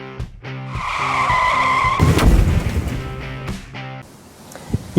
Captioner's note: screeching brakes